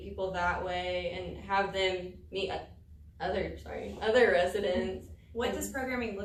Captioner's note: voice catches